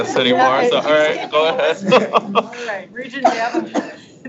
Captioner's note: laughs